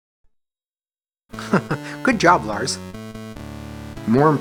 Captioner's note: chuckles